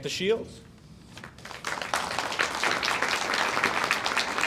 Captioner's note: audience applauds